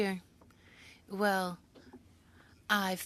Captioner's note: speaking French